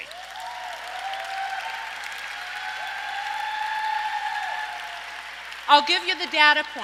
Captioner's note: audience applauds and cheers